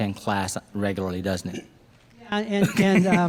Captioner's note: laughs